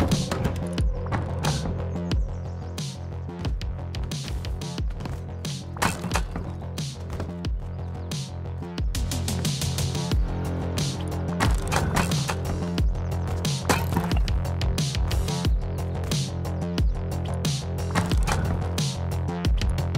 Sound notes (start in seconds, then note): 3.7 player footsteps outside